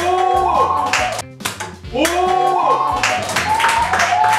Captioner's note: can gets knocked over